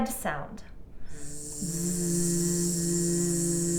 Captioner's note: buzzing